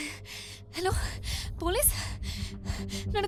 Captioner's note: woman gasping